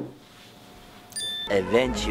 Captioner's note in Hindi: डिंग